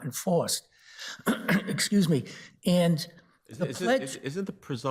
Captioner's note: clears throat